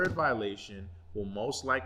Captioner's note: thump